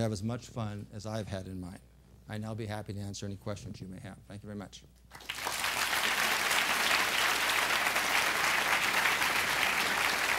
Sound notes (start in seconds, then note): 5.1 applause